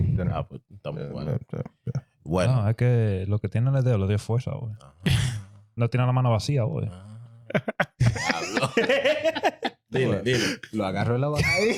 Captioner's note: laughing; speaking In Foreign Language